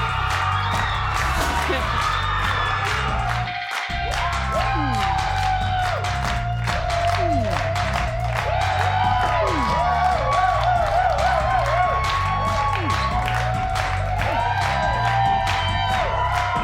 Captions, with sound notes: (Wendy laughs) (audience cheers) Hmm. Hmm. (audience cheers) Hmm. (audience cheers) Hmm. (audience cheers)